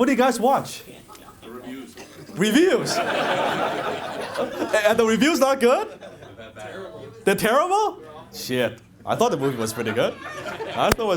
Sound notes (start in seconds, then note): 2.7 audience laughs